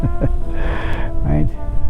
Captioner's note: chuckles